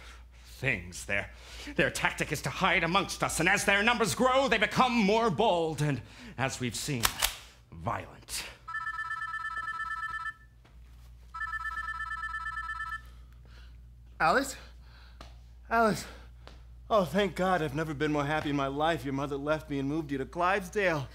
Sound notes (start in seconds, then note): 7.0 cocks gun; 8.6 phone rings